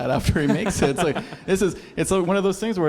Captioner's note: laugh